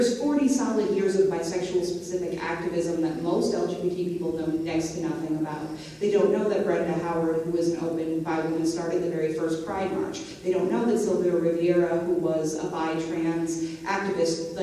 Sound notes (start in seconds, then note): none